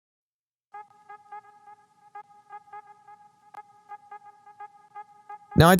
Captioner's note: boop boop boop boop boop